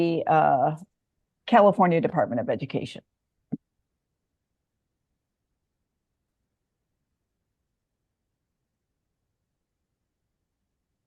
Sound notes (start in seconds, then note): 6.6 silence